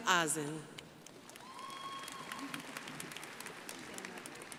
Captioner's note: crowd applauding